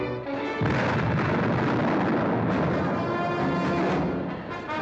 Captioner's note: loud explosion; dramatic music